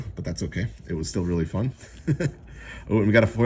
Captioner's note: chuckles